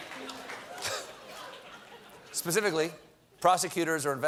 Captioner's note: applause; laughter